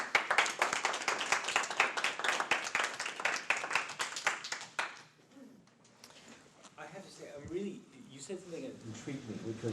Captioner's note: applause